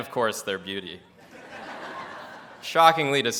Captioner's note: audience laughs